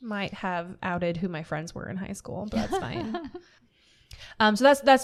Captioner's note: laughter